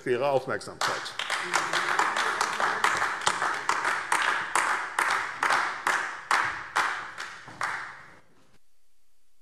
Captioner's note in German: Beifall AfD